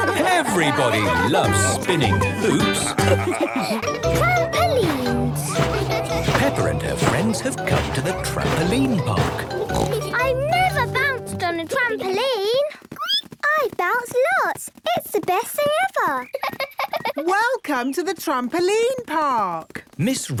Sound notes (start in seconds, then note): 13.2 squeaks; 16.2 giggles